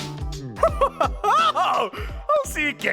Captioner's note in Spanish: Giovanni se ríe